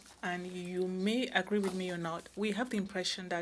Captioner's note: speaking in French